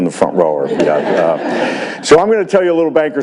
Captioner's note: audience laughs